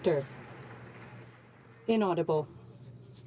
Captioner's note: some Applause